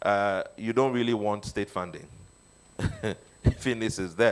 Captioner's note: chuckles